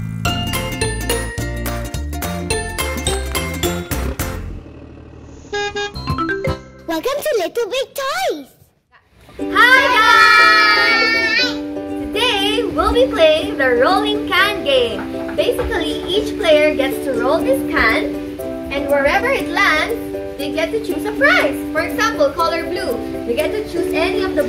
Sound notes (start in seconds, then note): 0.1 cheerful music; 5.4 bus horn; 9.6 happy music